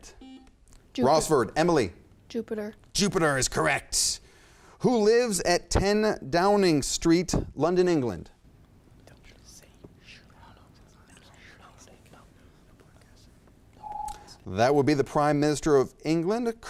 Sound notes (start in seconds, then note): 0.1 buzzer chimes; 9.1 contestants whispering; 13.8 timer beeps